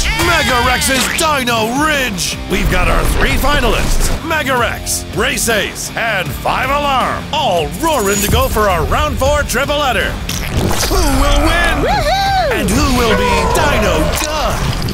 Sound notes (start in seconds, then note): 11.5 5 Alarm whooping